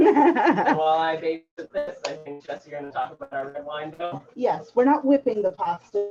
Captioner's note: noise and muffled chatter